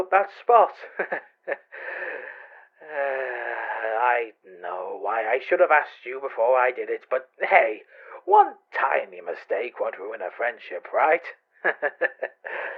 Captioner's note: nervously chuckles then sighs